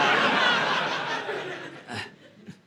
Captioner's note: audience laughing